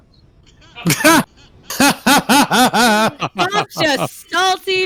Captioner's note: laughter